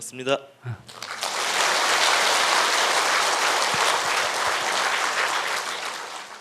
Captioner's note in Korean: 박수